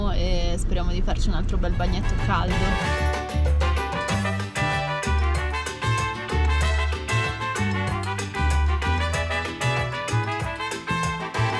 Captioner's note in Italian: Applauso